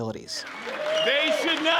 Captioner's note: cheers and applause